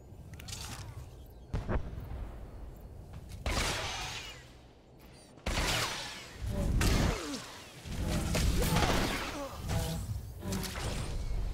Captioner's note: gunshots